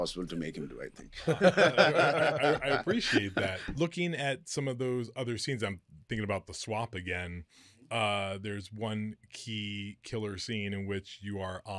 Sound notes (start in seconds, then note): 1.2 both laughing